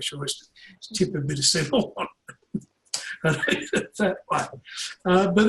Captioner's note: laughs